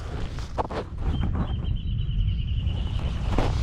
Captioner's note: extremely loud bird noises